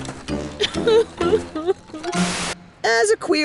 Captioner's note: sobs